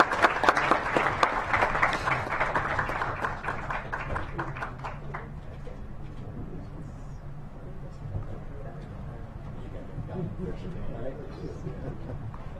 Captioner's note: clapping